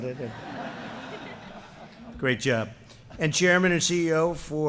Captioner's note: laughter